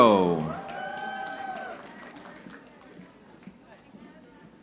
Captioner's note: audience clapping